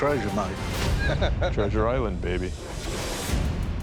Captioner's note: laughs